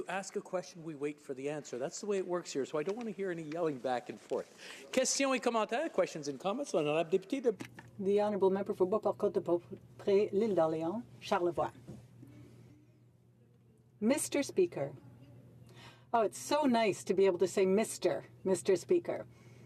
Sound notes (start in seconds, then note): 13.6 speaking French